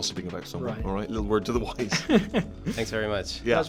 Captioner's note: laughs